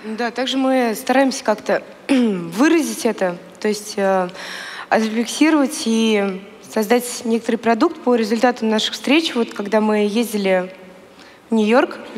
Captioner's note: foreign Language